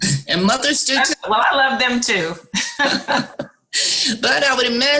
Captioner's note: laughs